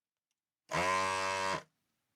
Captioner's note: buzzer Buzzing